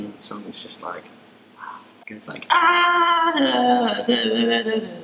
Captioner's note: hums